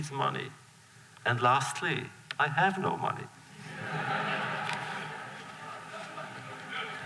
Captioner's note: laughter